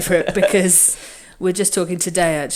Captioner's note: laughs